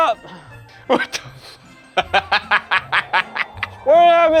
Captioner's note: laughing